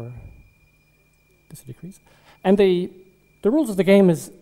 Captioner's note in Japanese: ベルの音